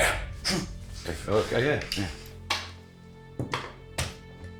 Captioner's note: Koch speaking German; Brown repeating German; ominous music